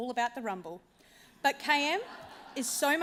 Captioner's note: laughter